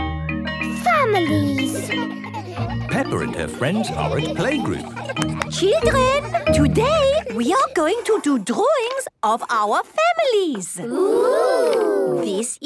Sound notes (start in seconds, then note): 5.2 clapping